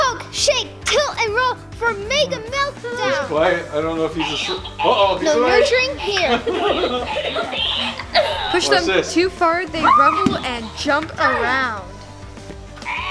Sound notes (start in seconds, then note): 4.1 toy chatters